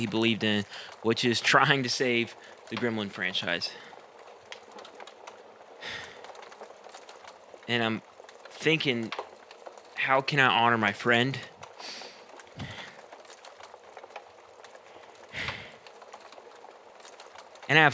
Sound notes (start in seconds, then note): 5.8 sighs heavily; 13.1 sighs again